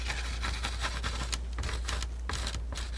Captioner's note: scratching